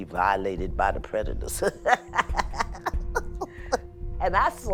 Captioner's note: laughs